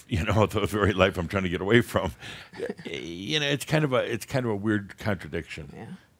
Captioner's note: chuckling